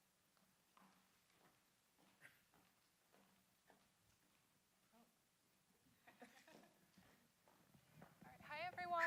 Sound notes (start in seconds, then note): 5.6 murmuring